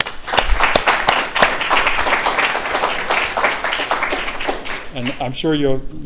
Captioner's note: applause